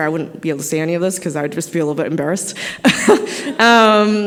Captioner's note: laughs